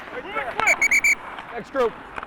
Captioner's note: whistle blows